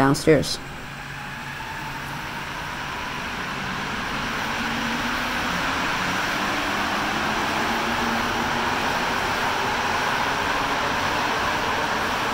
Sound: train Speeding Off

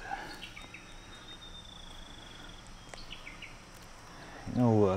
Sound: birds chirping

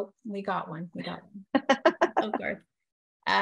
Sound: laughter

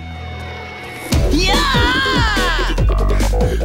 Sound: Habib screams

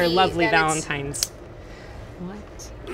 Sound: clicks

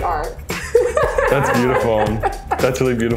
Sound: laughs

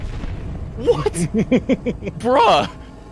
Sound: laughs

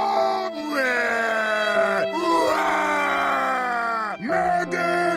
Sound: crying

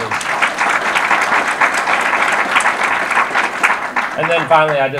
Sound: audience applause

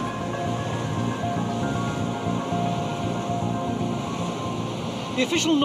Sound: water whooshing; suspenseful music

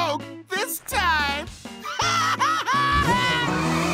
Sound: laughing

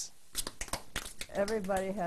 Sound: tapping

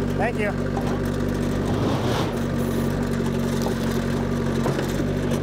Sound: motor continues rumbling

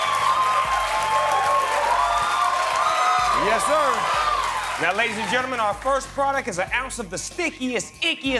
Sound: cheers and applause

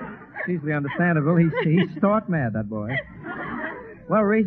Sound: laughs in the Background; audience Joins to Laugh as Well

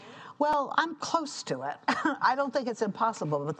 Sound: laughs

